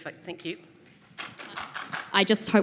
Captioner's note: applause